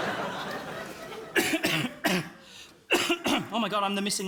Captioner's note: coughs